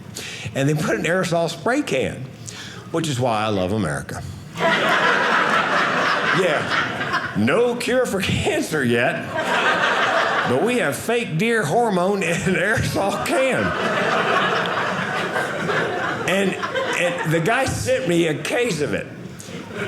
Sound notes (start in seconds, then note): 4.6 audience laughing; 12.6 audience laughing